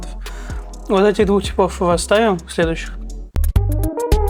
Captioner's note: water sips: 2